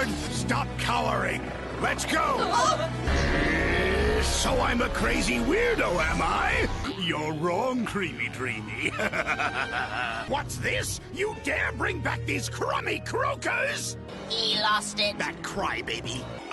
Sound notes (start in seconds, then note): 2.9 growls; 8.6 evil laugh